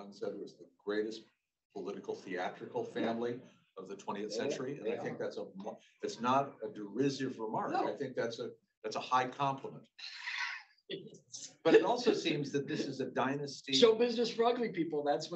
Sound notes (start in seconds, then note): 11.7 laughing